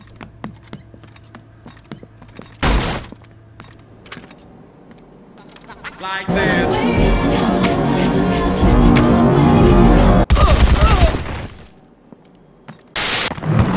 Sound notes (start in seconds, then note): 2.6 door slams against wall; 10.3 machine gun fires